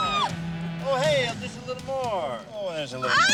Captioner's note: Jill screams